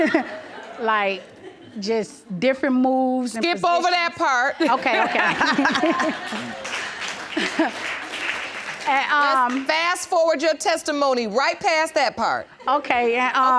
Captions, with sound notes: Like, just, different moves... Skip over that part. Okay, okay. (LAUGHS) And uh... Fast forward your testimony right past that part. Okay, and, uh... Okay.